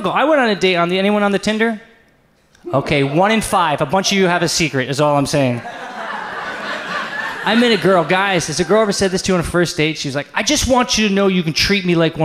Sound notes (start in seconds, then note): 5.5 audience laughs